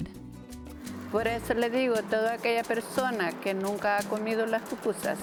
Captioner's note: women speak Spanish